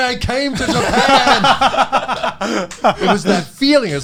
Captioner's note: all laughing